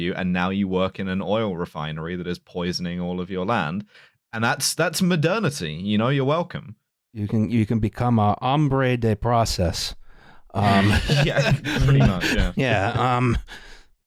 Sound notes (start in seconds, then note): 10.6 laughter